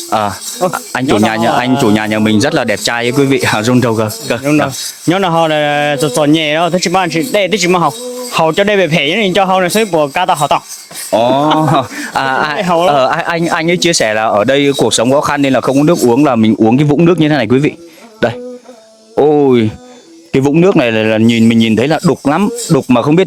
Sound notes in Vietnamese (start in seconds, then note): 11.1 tiếng cười